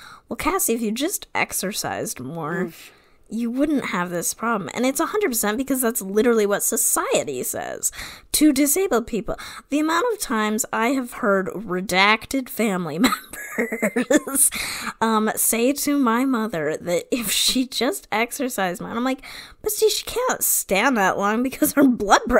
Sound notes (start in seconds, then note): 13.3 laughs